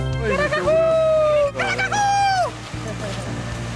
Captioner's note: Simon cheers